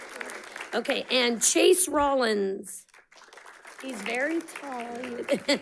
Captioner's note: audience clapping; laughs